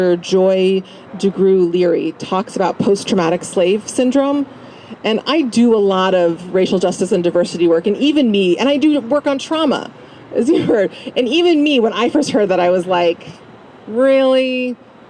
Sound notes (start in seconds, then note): 9.6 laugh